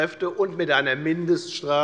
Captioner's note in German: none